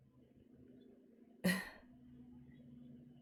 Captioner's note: chuckles